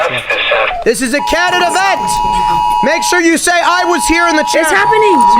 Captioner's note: FEMA Emergency Alert Test Sound